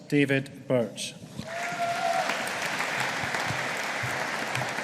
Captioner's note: audience applauding